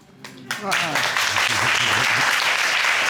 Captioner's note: applauding